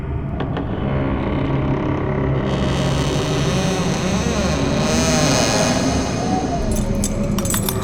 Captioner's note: door Creaking